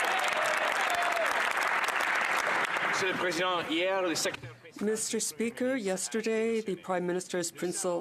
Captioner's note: some Applause